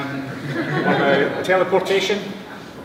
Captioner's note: laughter